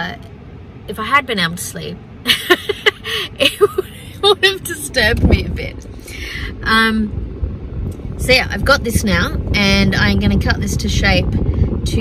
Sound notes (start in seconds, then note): 3.4 laughingly